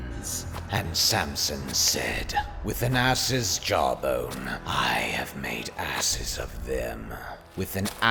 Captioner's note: deep raspy voice